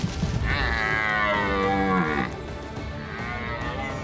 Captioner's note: stag calls